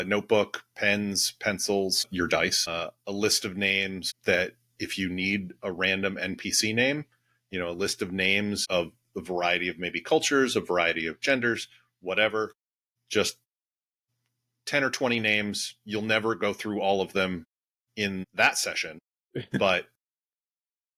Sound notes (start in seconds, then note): 19.4 laugh